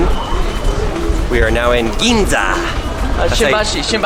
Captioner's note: foreign language